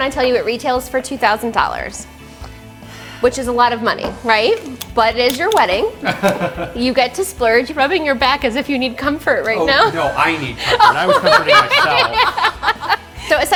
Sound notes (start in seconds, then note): 6.0 laughs; 10.5 laugh